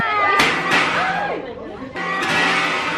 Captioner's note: something popped